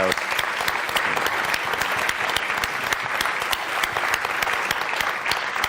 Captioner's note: applause